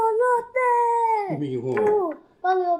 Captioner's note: Spanish